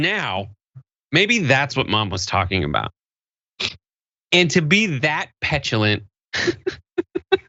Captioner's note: laugh